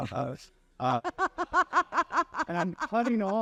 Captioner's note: laughing